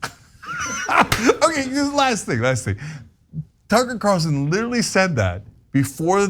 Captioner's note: laugh